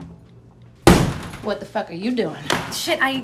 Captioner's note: keys tapping; door bangs open